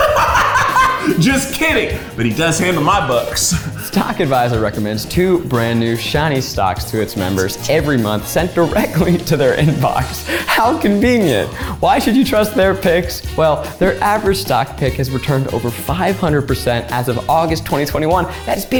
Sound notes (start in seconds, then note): 0.0 laughs; 8.5 laughs